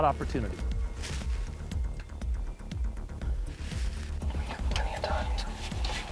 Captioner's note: whispering